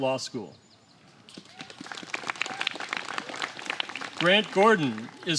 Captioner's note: applause